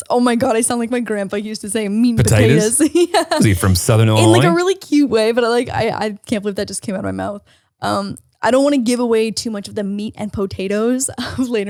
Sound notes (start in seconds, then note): 3.2 laughs